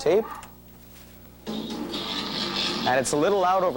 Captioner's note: audio from tape plays, distorted